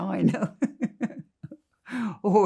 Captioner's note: laughing